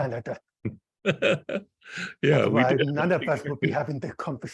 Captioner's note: laughs